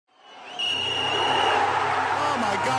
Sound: whistle blows

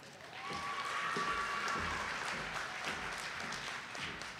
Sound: audience applauding

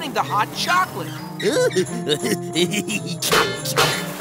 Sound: laughing

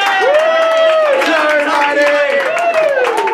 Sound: claps

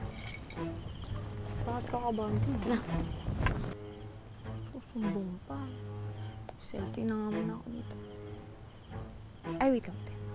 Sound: murmuring

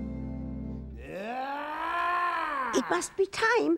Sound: creature shrieking

